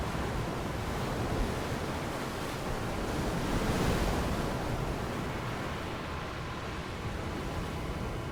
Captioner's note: sound of roaring waves